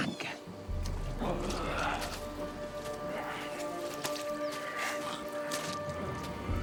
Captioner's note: suspenseful music; Maiden 2 growls